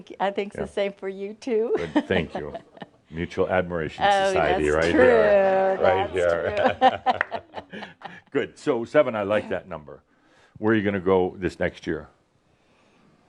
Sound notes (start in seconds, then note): 1.8 she chuckles; 6.2 they both laugh